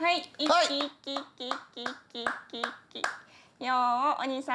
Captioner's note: speaking Japanese